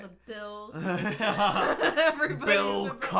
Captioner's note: both laughing